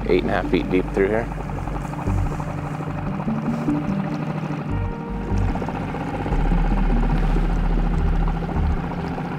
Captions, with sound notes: eight and a half feet deep through here. (dramatic music) (boat spluttering)